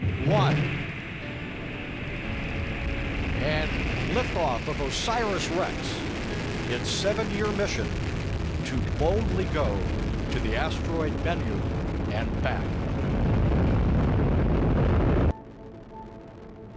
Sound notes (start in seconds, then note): 12.8 rocket launching